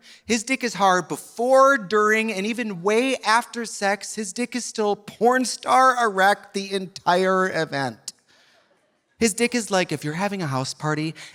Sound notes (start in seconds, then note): none